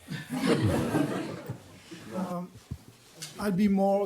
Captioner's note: audience laughs